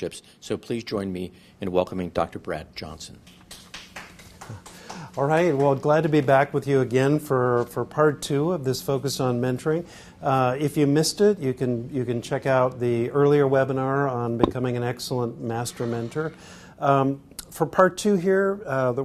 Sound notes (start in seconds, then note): 5.6 applause